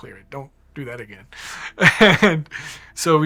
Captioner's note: laughing